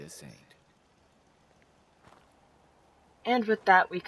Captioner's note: awkward pause